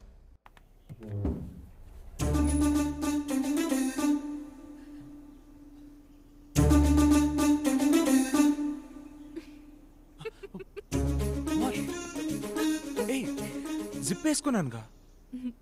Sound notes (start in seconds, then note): 10.1 Laughs